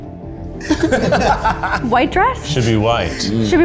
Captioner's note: all laughing